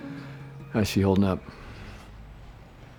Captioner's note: sighs